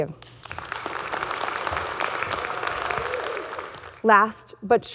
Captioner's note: audience clapping